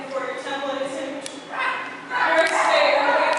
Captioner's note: CHORUS can be heard barking and yelping offstage